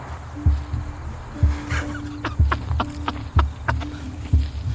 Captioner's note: person laughing